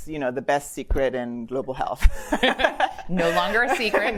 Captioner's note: laughs